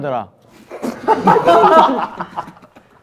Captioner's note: laughing